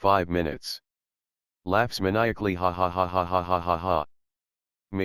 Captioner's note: laughs maniacally